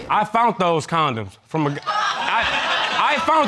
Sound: audience laughs

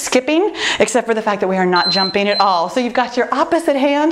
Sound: timer beeping

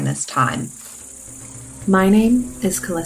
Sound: peaceful nature sounds

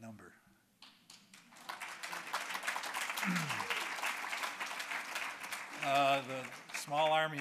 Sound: applause

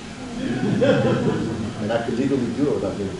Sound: audience laughs

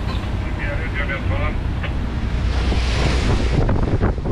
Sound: voice on CB radio

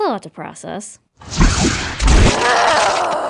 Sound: wind rushing

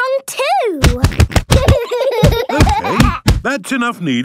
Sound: banging

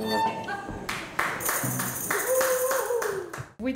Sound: clapping

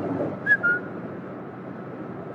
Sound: whistle

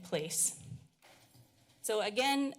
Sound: pause

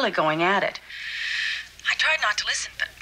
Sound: sighs

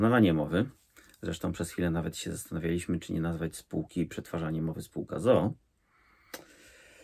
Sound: in Polish

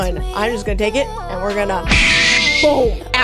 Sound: smash sound

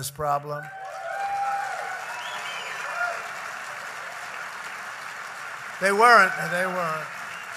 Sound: applause

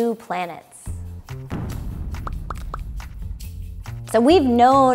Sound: boom

